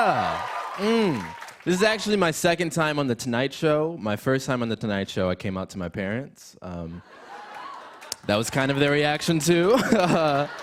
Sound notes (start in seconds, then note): 7.0 laughter